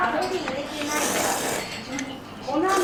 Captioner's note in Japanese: 麺をすする音